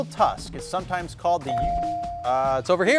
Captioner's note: bell dinging